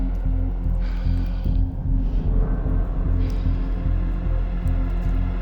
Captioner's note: person breathing heavily